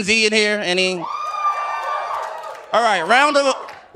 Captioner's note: audience cheering